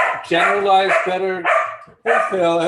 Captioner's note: dog barking